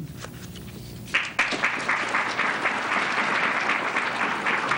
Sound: applause

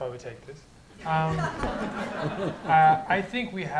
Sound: laughter

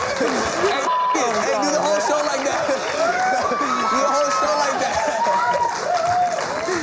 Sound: beep

